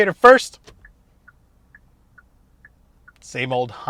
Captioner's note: indicator ticking